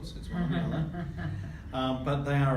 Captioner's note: laughs